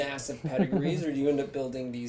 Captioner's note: laugh